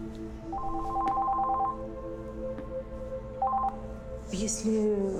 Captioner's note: phone ringing